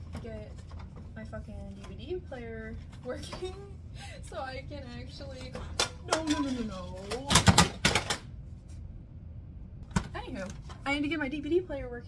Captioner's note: disc falls